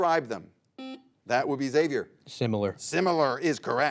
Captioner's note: buzzer beeps